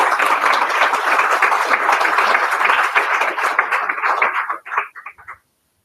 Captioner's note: applause